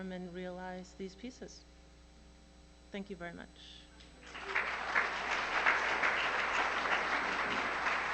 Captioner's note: applause